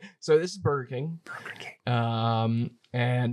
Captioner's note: whispering